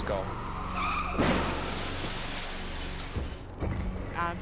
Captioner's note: tires screeching; vehicles thudding